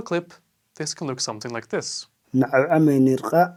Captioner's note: iraqw speech